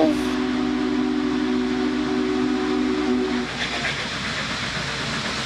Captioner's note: train hoots and steams